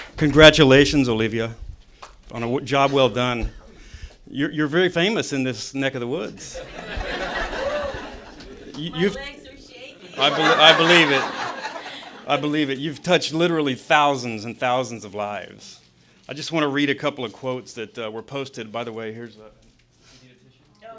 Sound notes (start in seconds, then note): 6.5 laughter